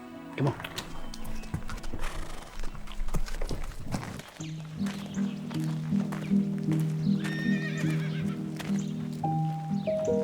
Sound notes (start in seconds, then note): 1.8 horse braying; 4.4 soft romantic music; 7.2 horses whinnying